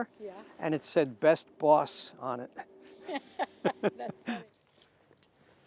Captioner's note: laughing